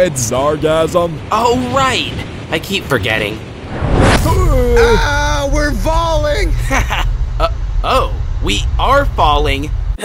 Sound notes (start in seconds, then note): 0.1 thick accent; 4.0 screaming; 5.4 thick accent